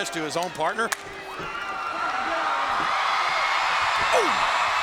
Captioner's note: hands clapping; crowd cheering; blow thudding